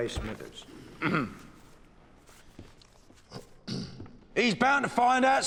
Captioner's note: clearing throat